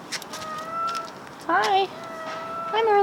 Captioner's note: meow; meow!